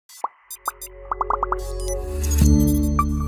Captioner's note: graphics popping; graphics beeping; bright music; logo chimes